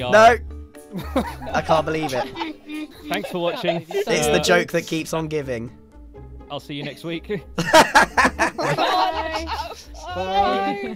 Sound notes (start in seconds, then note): 0.9 others laughing; 7.6 laughs; 8.7 others calling goodbye